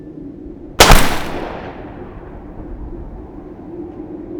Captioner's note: gun blasting